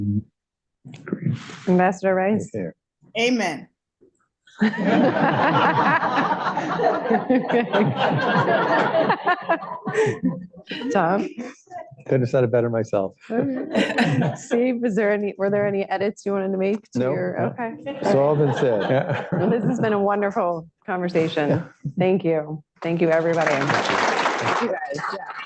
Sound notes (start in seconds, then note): 8.1 laughter; 13.3 laughter; 17.8 laughter; 22.8 applause